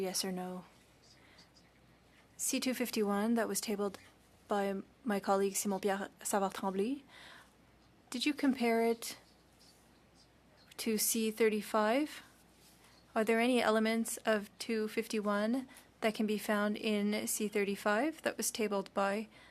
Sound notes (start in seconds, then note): 3.0 speaking French